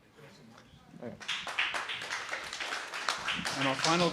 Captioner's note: audience applauding